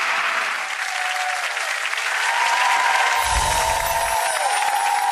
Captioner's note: audience cheering